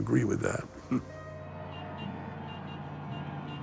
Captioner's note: horns honking; crowd cheering